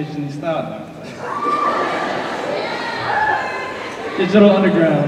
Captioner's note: cheers